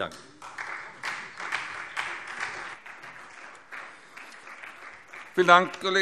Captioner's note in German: Beifall Freie Demokraten und vereinzelt SPD